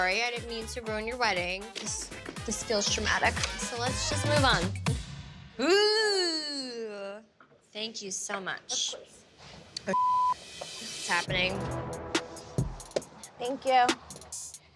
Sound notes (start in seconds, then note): 9.9 beep; 11.2 tense music